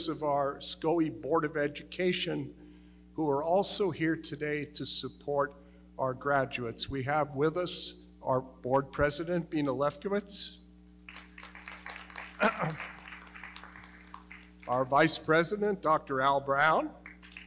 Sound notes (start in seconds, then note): 11.0 audience clapping; 12.4 clears throat